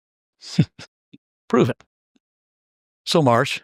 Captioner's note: laugh